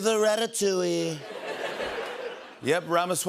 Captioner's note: laughter